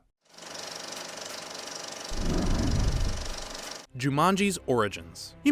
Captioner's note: projector whirring